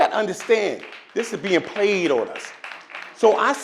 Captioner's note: audience claps